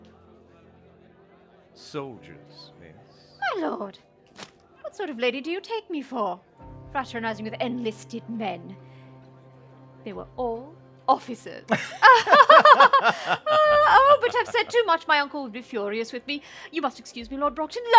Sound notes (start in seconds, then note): 11.7 they laugh